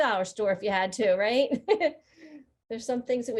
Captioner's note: laughing